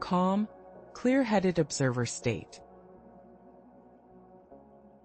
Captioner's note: pause